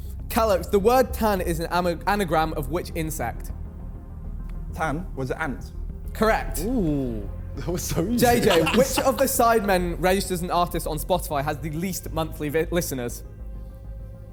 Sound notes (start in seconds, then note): 7.6 Josh laughing; 14.1 tense music